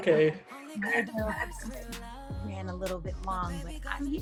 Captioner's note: static drowns out